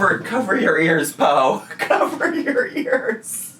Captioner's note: laughing